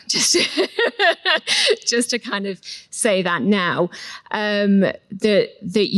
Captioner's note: laughs